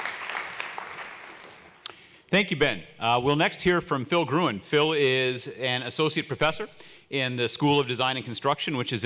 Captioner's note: applause